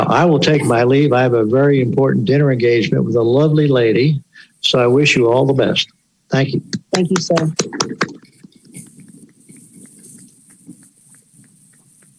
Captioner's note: applause